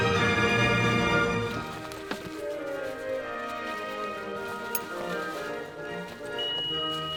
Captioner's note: rustling